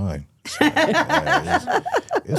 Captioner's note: Stephanie laughs